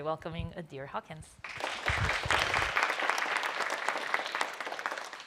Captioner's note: applause